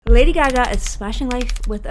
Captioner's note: keys typing